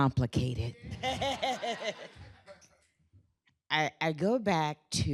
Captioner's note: laughter